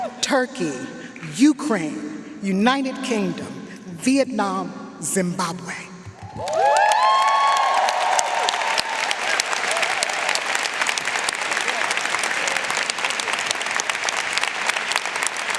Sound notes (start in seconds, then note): 6.3 audience cheering and applauding